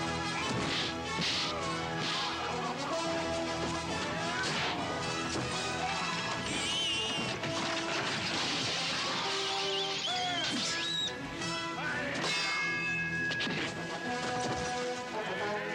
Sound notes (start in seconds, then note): 0.1 dramatic music; 1.1 fists thudding; 2.1 dramatic music; 10.6 dramatic music; 10.6 men yelling